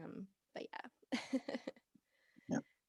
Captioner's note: laughing